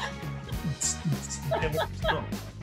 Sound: imitating dance music

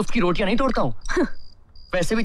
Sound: scoffs

